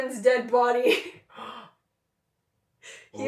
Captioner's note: gasp